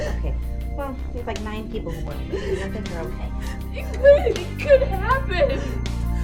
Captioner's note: makeup artist mumbles to herself